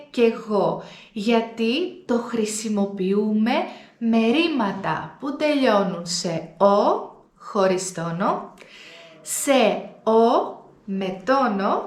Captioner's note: without accent; with an accent